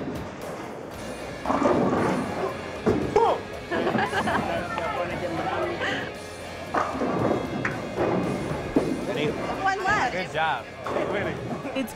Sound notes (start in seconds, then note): 3.6 laughter